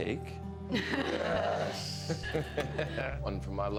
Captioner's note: Candace and Henrietta laugh; laughs